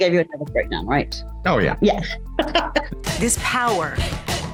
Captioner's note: laughs